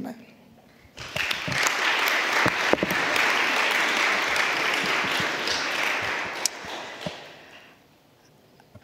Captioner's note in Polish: oklaski